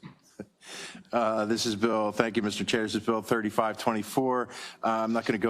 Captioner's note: laugh